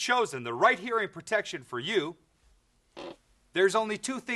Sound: none

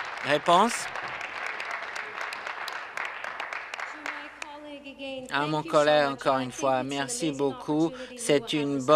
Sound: applause

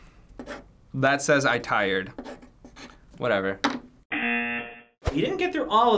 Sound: buzzer rings

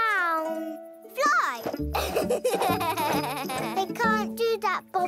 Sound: laughs

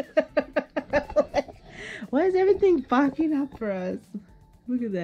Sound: still giggling

